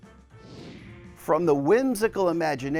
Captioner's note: screen whooshing